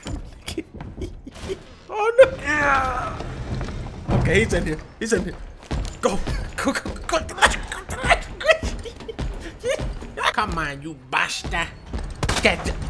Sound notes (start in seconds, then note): 0.0 giggle; 7.1 laughing; 7.2 giggle